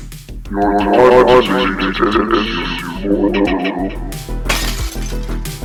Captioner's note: shatters marbles